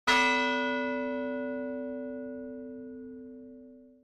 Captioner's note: bell chiming